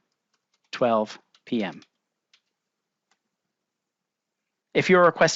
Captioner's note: keyboard typing